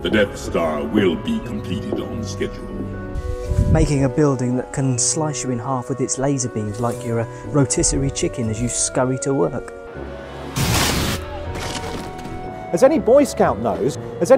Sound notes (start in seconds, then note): 10.6 body thuds; 10.6 laser crackles